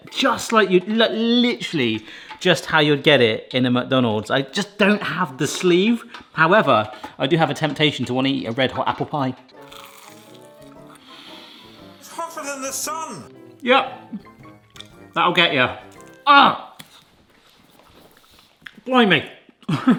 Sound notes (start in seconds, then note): 9.4 bright instrumental music; 9.6 pie crunches; 19.7 laughs